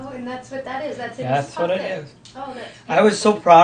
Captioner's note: voiceover